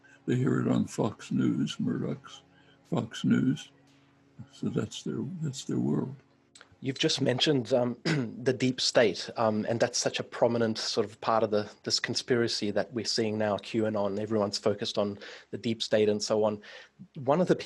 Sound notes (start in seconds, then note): 8.0 clears throat